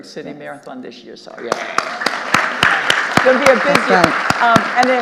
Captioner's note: audience applauding